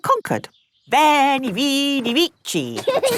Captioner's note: laughing